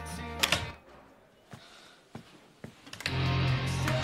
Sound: music stops

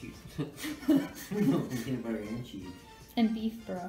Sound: laughs; chuckles

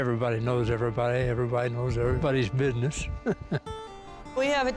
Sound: laughs

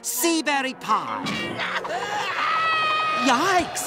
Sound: screaming

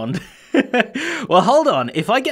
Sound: chuckles

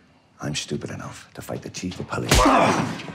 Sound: violent blow lands

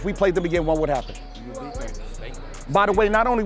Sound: overlapping chattering

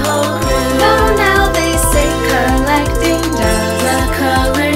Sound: owoooooooo

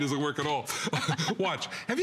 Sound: laughter

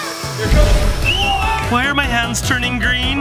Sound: elephant toothpaste booms; screams

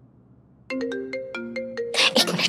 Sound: phone ringing

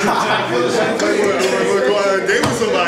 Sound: audience laughs

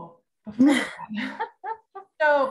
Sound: laughing

